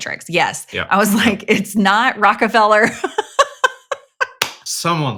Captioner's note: laughs